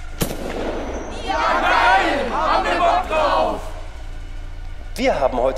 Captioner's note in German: Menge gequält